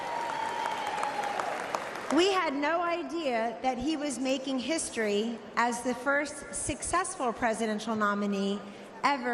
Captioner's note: applause